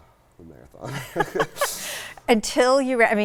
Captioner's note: both laugh